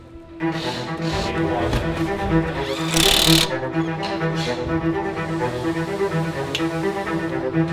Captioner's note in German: Maschinengeräusche